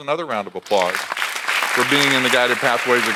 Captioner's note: audience applauds